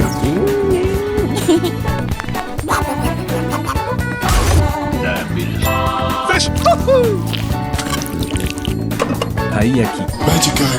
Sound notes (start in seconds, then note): 2.2 duck quacking; 4.2 car crash